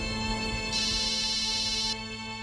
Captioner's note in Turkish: Müzik devam ediyor; Telefon zili sesi